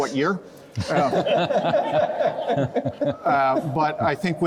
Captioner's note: panellists and crowd laughing